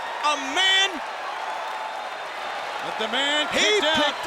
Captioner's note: audience cheers